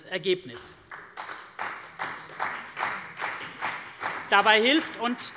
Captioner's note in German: Beifall bei der CDU und dem BÜNDNIS 90/DIE GRÜNEN